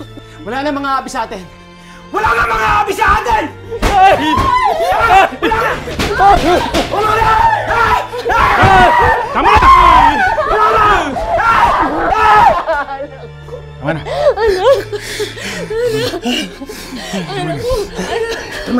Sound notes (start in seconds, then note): 3.7 freaking out and screaming